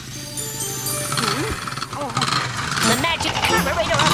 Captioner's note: gasping; engine sputtering